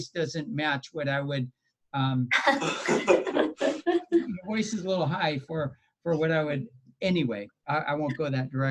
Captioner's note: laughter